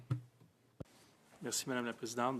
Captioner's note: speaking French